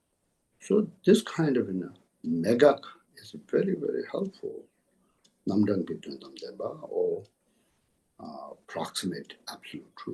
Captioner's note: tibetan